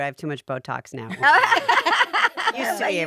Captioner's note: all laughing